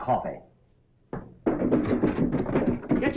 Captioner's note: hurried footsteps